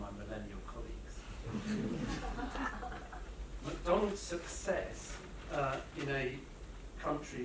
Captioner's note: laughter